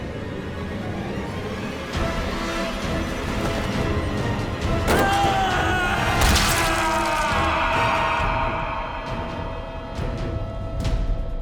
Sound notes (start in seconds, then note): 4.8 screams; 6.4 scream echoes